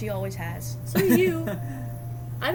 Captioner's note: laughs